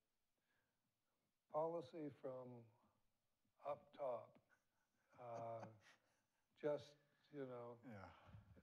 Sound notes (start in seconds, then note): 5.0 chuckles